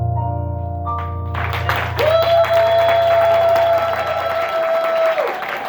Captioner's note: applause and cheers